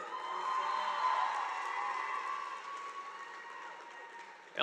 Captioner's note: audience applauding